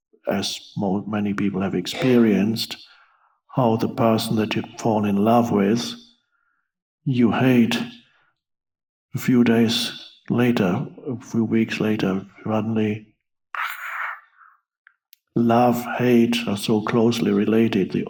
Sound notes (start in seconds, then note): 14.2 hisses